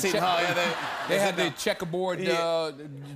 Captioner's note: laughter